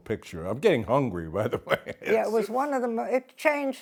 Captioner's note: laughs